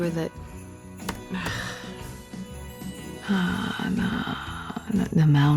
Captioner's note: typing resumes; typing